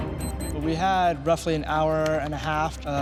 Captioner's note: dramatic music; beeping